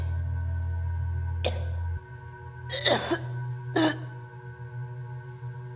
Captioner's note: Lindsey gagging and coughing